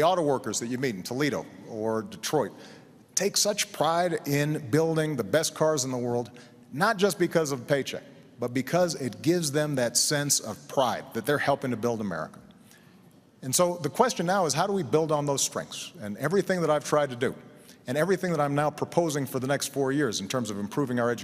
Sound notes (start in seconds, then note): none